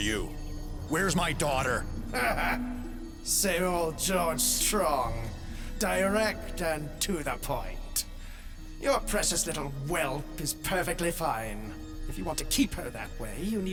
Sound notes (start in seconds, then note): 4.0 sneered chuckle